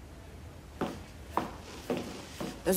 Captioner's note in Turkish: Topuk sesi